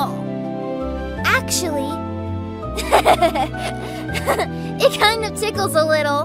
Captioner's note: giggles